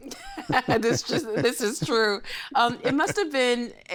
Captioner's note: laughing